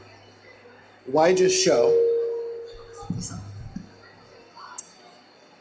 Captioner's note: microphone distortion